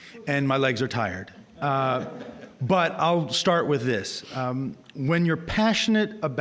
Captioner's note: audience chuckling